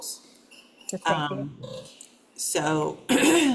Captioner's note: speaks faintly